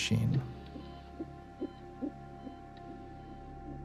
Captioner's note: heart beating on ultrasound